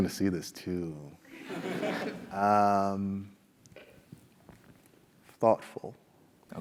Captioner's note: laugh